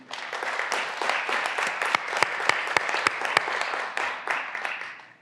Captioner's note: graduands applauding